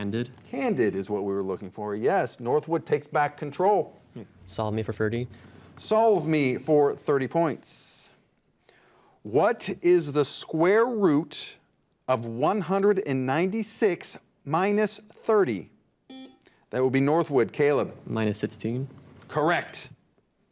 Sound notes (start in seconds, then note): 16.1 buzzer beeps